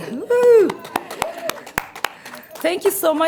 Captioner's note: crowd claps